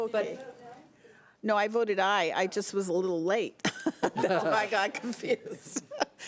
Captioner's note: chuckling